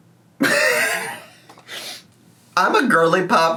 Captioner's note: laughing